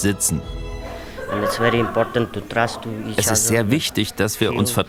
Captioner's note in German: auf Englisch